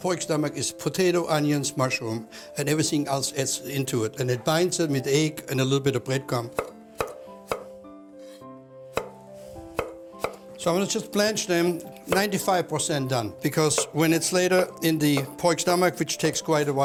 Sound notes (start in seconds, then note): 9.7 chopping